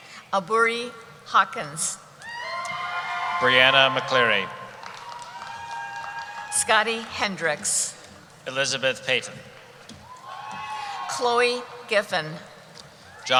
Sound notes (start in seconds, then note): 2.2 cheering